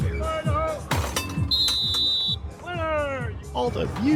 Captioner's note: bell clanks; whistle trilling